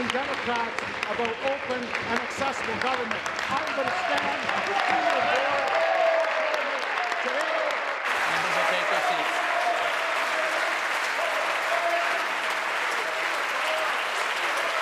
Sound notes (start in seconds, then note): 1.4 applause; 10.8 applause